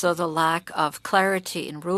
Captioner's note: speaking French